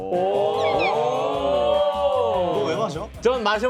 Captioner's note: murmurs